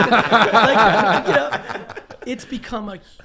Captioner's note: all laugh loudly